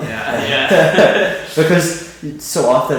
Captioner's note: both laughing